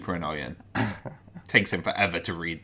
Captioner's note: giggles